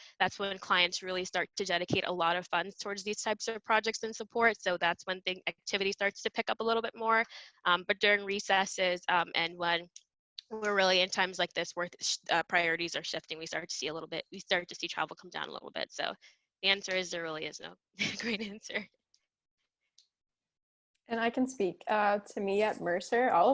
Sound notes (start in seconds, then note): 18.0 giggles